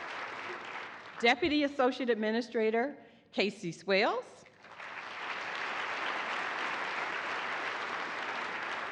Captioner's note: applause